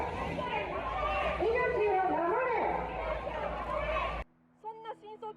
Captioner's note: chanting